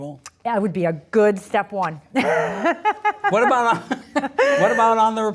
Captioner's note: laughs